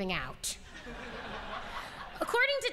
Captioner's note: laughter